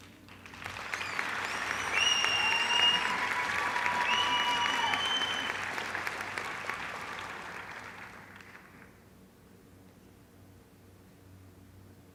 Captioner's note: applause